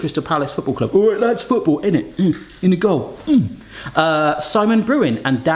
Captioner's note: grunts